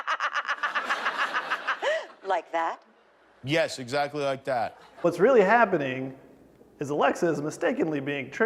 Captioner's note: laughter